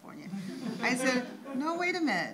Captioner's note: audience chuckles